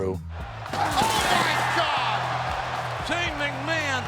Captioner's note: glass shatters